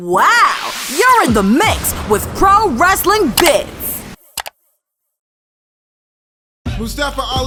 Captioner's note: voiceover